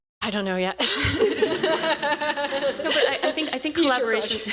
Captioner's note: laughter